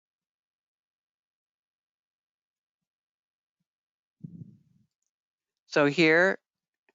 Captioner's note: 5 seconds pause